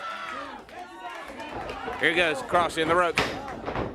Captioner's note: crowd chatter